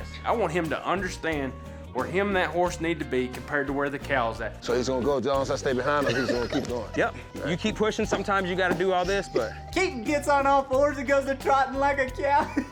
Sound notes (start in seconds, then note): 5.9 laughter